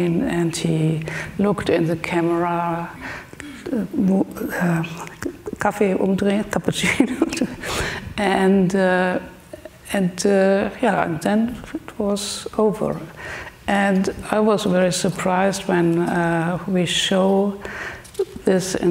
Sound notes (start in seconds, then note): 5.0 speaks German; 8.1 laughs